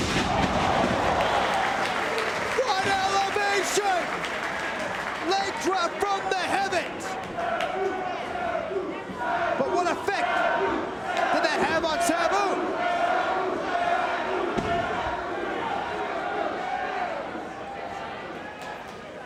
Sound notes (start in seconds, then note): 0.0 spectators cheering and applauding; 7.5 spectators chanting "Sabu!"